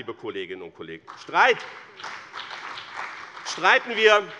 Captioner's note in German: Beifall bei dem BÜNDNIS 90/DIE GRÜNEN und der CDU